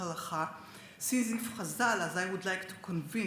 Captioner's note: speaks Hebrew